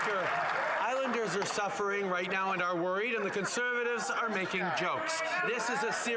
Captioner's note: cheering and Applause